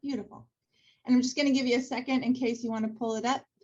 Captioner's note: none